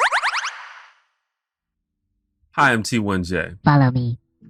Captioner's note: weird voice